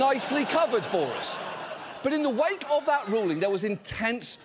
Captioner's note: audience laughing